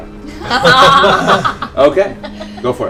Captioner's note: laughter